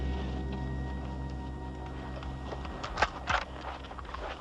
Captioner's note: gun clicks